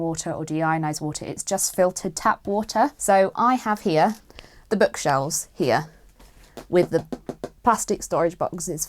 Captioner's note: taps